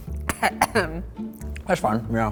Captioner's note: coughs